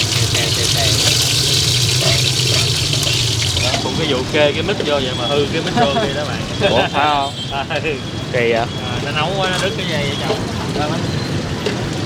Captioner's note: sizzling